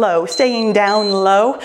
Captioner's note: timer beeps